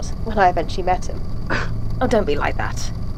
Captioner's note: scoffs